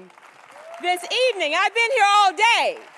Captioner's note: applause